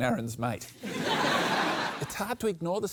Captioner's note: laughter